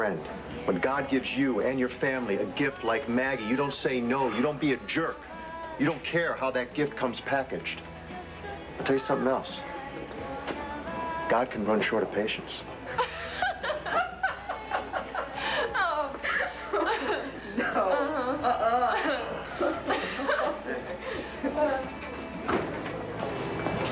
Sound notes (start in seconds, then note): 12.8 marty and maggie laugh